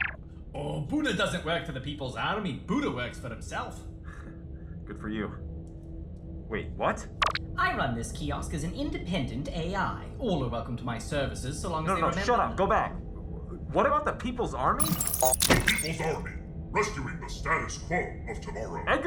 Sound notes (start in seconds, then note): 4.1 chuckle